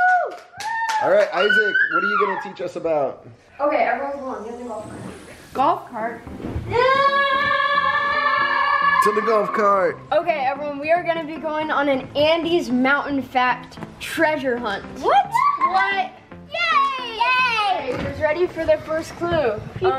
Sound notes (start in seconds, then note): 6.6 yelling